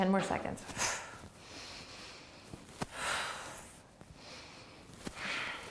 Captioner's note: breathing